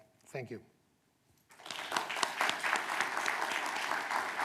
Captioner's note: applause